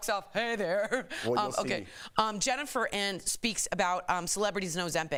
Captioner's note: laughter